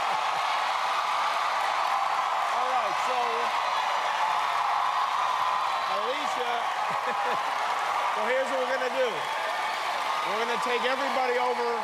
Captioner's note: cheers and applause